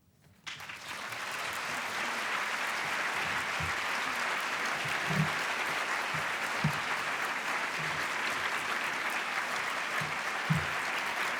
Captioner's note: applause